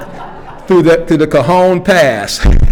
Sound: attendees laughing

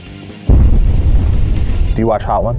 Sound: explosion echoes

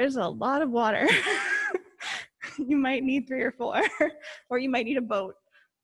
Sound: chuckles

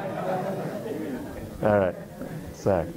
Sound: laughter

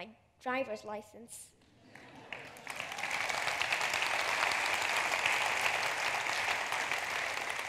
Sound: laughter/applause

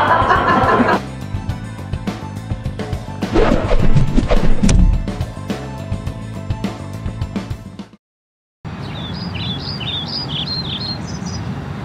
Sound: birds tweeting, traffic noises

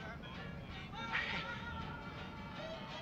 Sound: chuckles

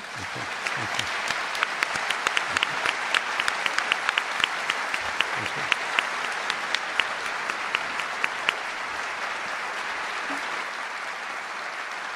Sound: applause

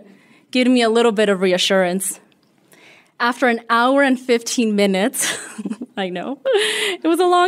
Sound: laughter

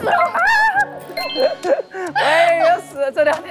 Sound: super happy

